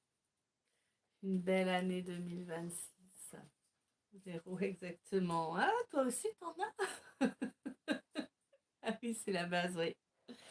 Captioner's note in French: rires